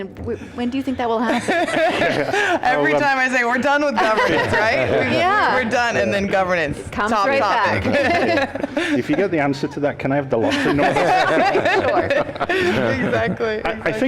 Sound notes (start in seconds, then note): 1.2 laughter; 7.6 laughter